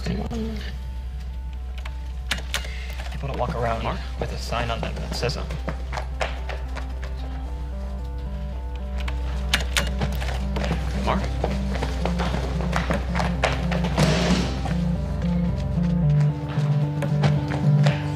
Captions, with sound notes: people don't walk around mark with a so. - Mark. (footsteps clanging) (door bangs)